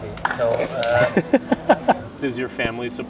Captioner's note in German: lacht